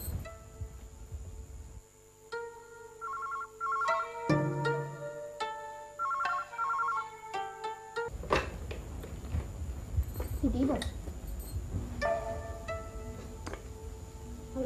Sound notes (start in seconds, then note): 5.9 phone ringing